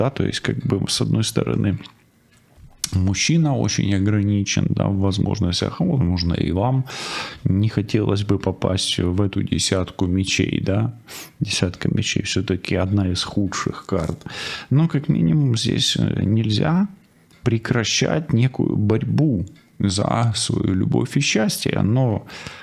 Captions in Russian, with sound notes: то есть как бы с одной стороны мужчина очень ограничен, да, в возможностях, возможно, и вам не хотелось бы попасть в эту десятку мечей, да, десятка [фыркает] мечей всё-таки одна из худших карт, но как минимум здесь нельзя прекращать некую борьбу за свою любовь и счастье, Но